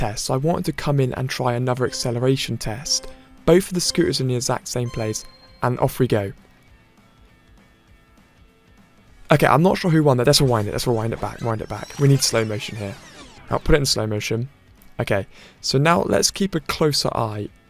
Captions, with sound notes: so I wanted to come in and try another acceleration *countdown ticks down* test. Both of the scooters are in the exact same place – and off we go. Okay, I’m not sure who won there, let’s rewind it, *rewind sound* rewind it back, rewind it, we need slow motion here. Now I’ve put it in slow motion. Okay, so now let’s keep a closer eye